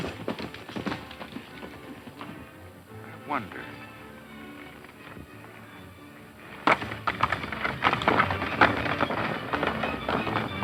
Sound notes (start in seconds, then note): 6.9 clattering hooves